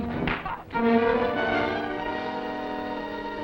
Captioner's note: fist thuds